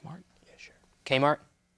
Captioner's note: whispers